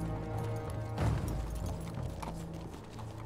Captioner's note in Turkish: At nalı sesi